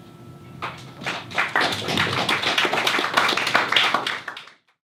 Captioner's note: applause